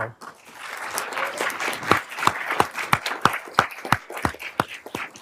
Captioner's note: everyone applauding